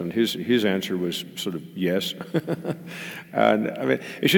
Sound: laugh

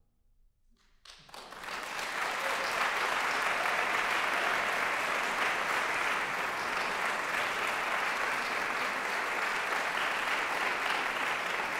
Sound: applause

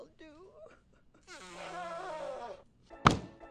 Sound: blows nose

